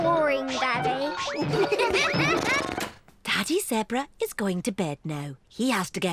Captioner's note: all giggle